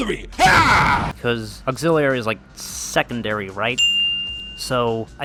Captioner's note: ding